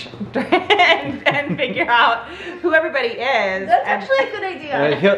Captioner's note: laughs